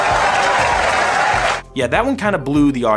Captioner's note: clapping